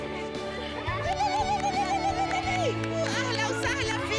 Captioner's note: ululating